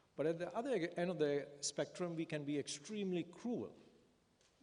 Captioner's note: none